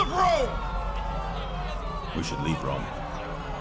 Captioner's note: crowd yelling